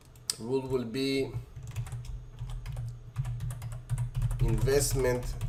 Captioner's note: keyboard typing